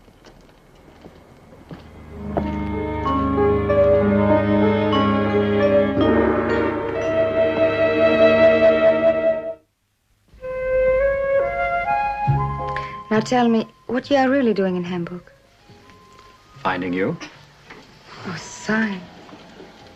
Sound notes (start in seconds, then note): none